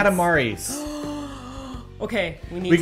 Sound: gasp

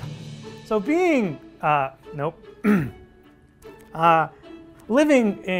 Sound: clears throat

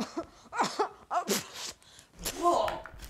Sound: coughing

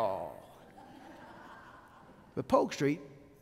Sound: laughing

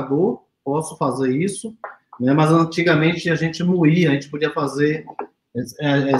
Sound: speaks portuguese

